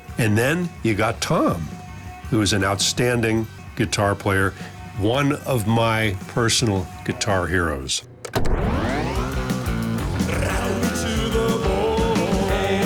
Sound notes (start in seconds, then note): 8.2 reels whir